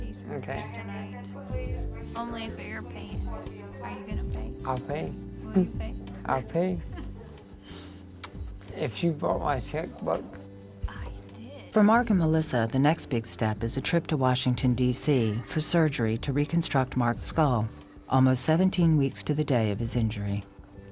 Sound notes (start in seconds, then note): 6.7 laughs; 8.2 kissing sound